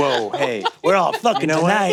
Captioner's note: laughs